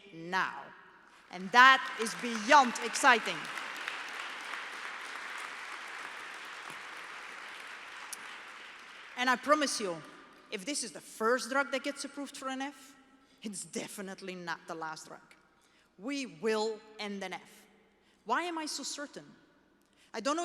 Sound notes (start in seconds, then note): 3.6 applause